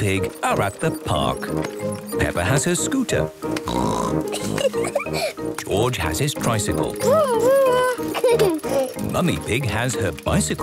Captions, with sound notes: are at the park. Peppa has her scooter. (snorts, giggles) George has his tricycle. - Vroom! Vroom! (giggles) Mummy Pig has her bicycle.